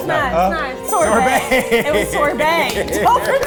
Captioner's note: laughs